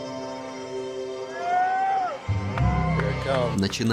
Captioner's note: people cheering